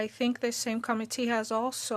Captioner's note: speaking French